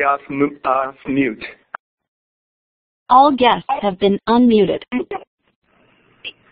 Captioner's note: recorded Voice